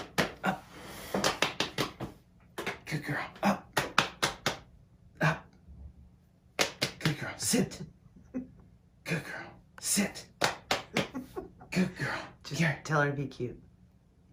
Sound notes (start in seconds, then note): 7.9 laughing; 10.9 laughing